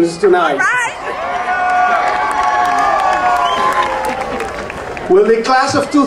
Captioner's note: audience cheering and applauding